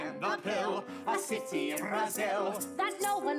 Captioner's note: rhythmic shaking